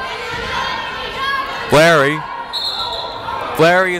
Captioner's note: yelling